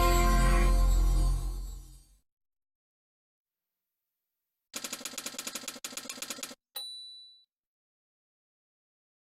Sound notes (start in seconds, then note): 4.7 typewriter keys clicking, followed by a ding in the end